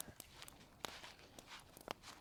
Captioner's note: footsteps